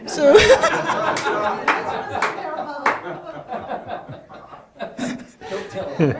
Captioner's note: laughter in the room